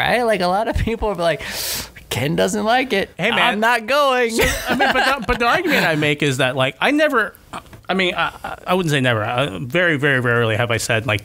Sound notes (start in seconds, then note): 4.3 laughter